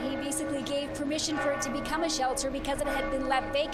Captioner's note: bell tolling